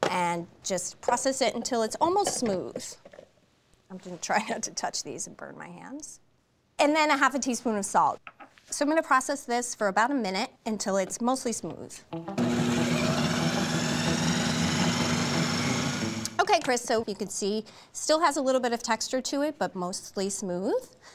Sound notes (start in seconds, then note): 12.4 whirring